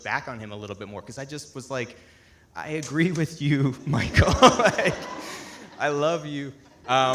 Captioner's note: laughs; audience laughing